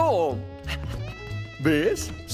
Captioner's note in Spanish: Jadeando